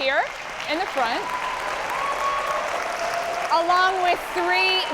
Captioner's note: audience applauding